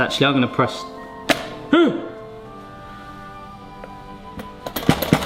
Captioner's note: groans; toaster rattling